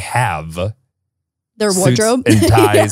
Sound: laughs

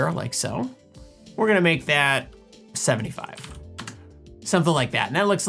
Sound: keyboard clicks

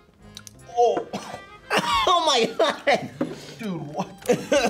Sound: coughs

